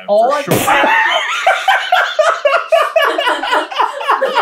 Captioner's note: team laughter; spits and guffaws with laughter